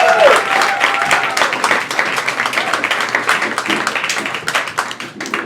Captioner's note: crowd applauding and cheering